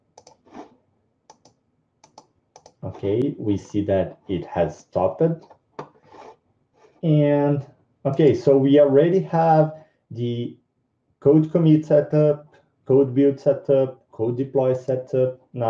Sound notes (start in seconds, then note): 2.0 mouse buttons clicking